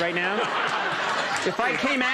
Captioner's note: audience laughs